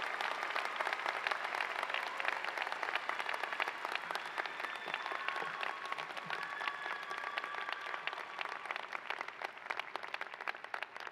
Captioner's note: cheers and applause